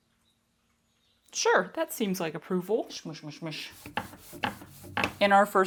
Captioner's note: squishy rolling sounds